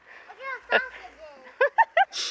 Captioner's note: Ally giggling